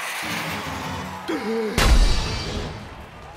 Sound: gasps

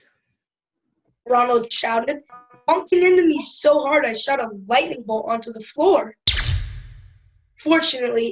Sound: zap

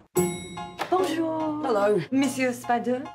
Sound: speaks in french

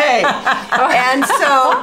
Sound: all laughing

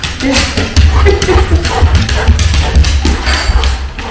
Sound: laughs

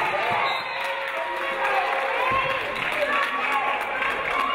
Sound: referee blows whistle

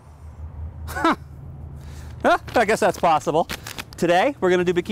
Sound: scoffs

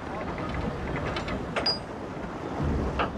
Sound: wheel turning

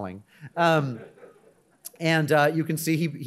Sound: audience chuckling

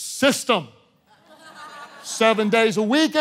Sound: congregation laughing

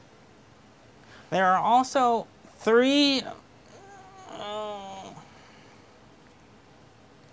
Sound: moans

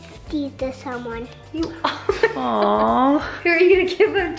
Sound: chuckling

